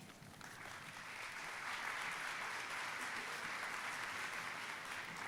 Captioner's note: audience applauding